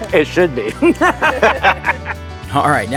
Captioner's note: all laughing